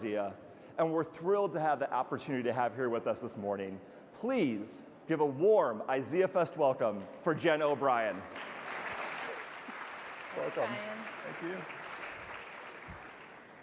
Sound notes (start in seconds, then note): 7.2 audience applauding